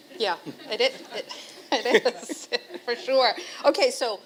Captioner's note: chuckle